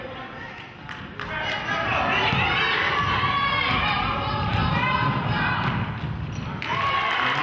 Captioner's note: clapping